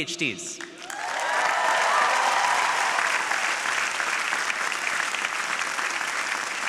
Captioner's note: audience cheering and applauding